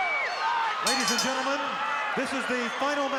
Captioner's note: bell rings